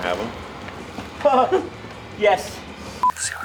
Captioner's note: agressive Laughing